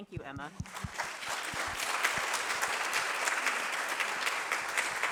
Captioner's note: applause